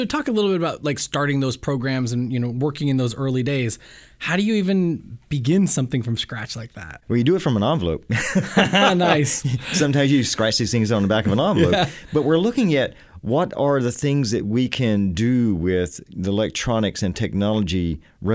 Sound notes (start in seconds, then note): 8.1 laughter